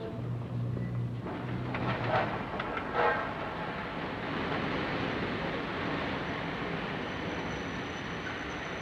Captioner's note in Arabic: اصوات شوارع المدينة; قطار يهدر بهدوء; صرير الفرامل